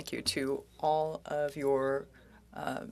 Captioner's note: speaking french